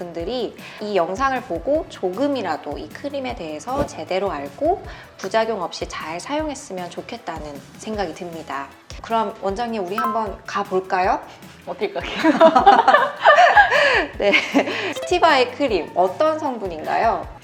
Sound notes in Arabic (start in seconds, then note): 11.8 يضحك